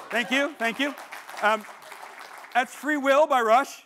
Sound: audience applauding

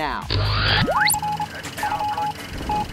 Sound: sound Effects

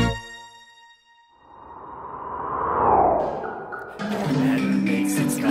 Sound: ghostly wind blowing

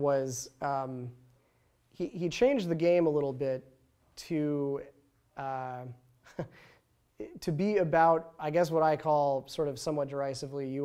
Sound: somewhat derisively

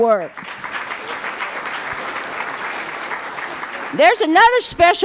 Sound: applause

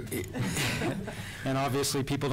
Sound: laughter

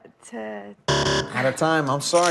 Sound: buzzer

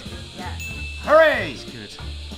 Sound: correct ding

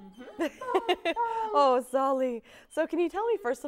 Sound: laughs

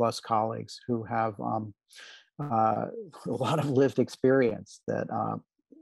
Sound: laughter

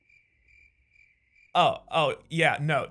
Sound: crickets

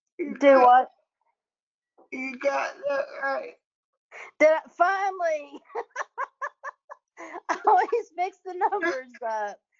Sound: laughs

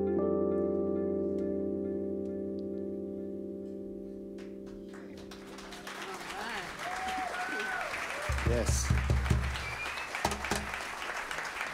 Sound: applause

